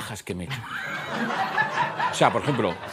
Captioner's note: laughter